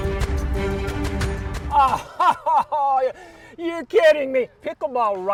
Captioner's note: laughs